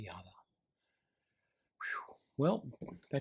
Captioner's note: exhales